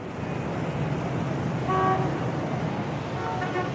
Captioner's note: horns honking